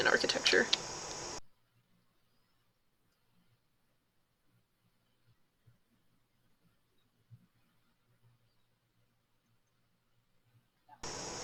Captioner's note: typing